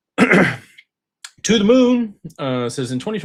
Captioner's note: clears throat